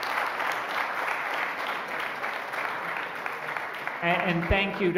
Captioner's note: applause